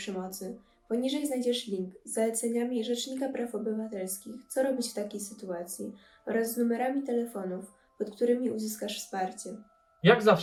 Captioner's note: in Polish